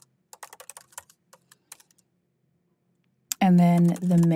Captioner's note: clicking continues